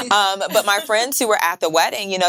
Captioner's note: women chuckling